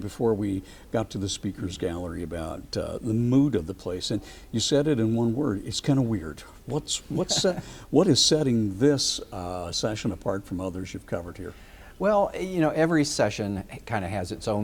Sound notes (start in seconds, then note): 7.1 chuckles